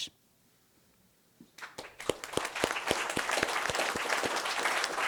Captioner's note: applause